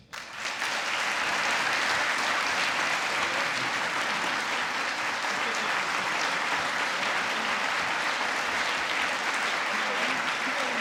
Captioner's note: applause